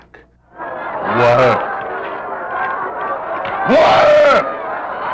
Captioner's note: crowd shouting